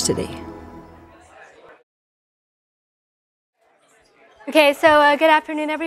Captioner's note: students murmuring